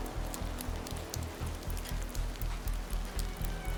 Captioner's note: heavy rain